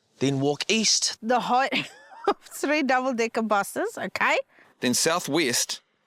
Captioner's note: laughs